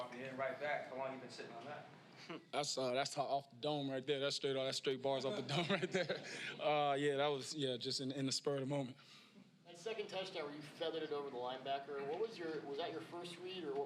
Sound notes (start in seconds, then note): 5.3 laughs